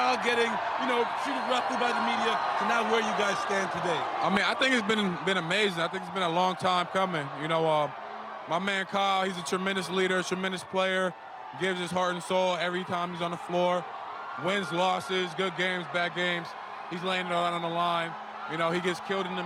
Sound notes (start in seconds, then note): 6.2 cheering